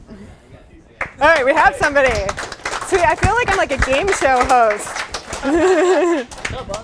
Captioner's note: applause